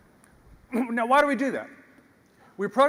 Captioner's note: cough